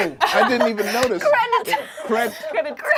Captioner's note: laughs; overlapping chattering